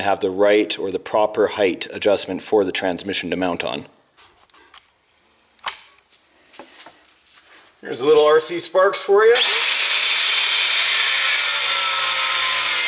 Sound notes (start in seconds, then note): 9.3 drilling